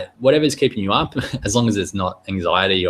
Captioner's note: chuckling